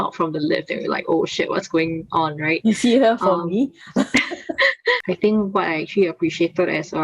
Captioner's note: laughs